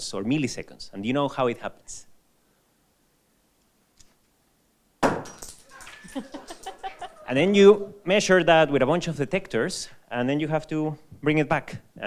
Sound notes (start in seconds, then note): 5.0 nucleus thuds; 5.6 laughs